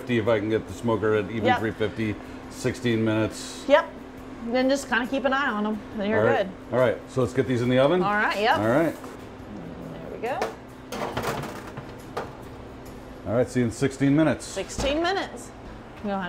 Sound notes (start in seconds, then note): 11.0 tray rattles